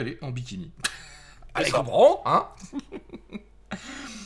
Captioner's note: laught